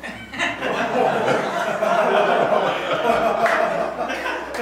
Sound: students laugh

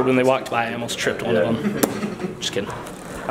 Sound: pops lips

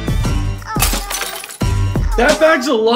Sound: glass shatters

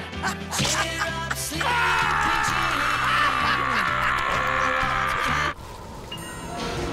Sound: laughing; screaming, laughing

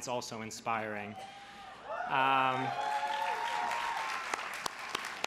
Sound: crowd cheers

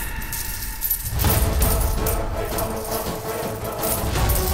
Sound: coins clinking

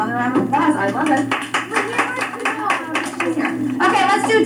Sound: applause

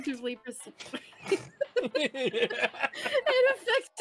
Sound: laughing

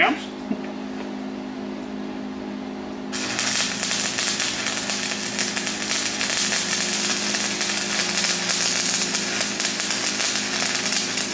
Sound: welding

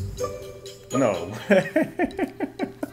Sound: laughs

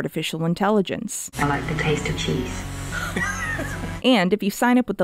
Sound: giggles

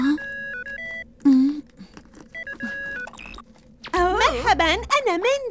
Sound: cell phone

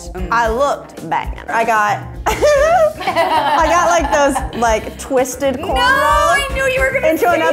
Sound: laughs

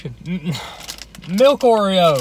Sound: grunting

